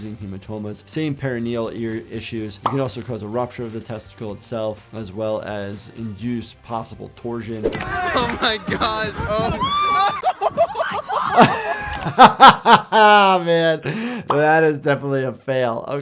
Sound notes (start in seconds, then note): 9.2 crowd screaming; 10.0 camera man laughing; 12.3 chuckling